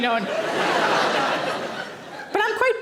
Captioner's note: audience laughing